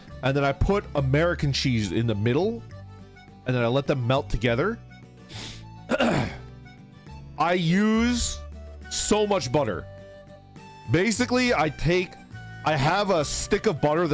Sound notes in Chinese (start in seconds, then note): 5.8 清喉嚨